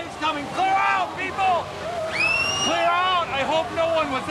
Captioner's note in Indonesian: suara teriakan